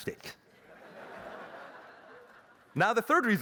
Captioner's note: laughter